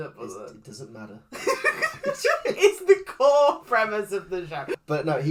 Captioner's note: giggles